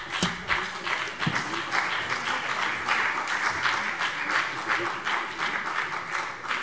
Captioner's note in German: Beifall BÜNDNIS 90/DIE GRÜNEN und CDU